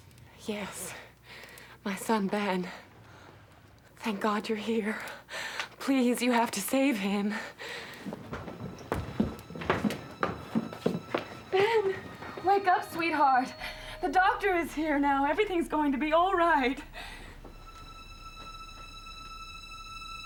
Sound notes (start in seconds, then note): 7.6 footsteps; 17.6 eerie music